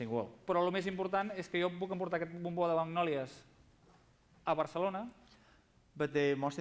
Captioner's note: non-english speech